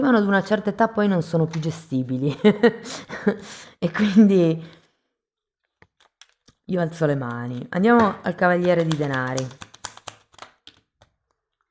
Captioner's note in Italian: risate